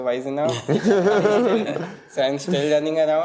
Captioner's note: laughter